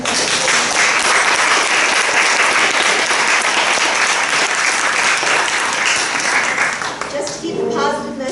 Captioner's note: audience applause